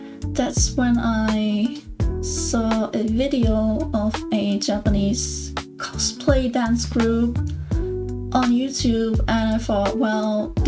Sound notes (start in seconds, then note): none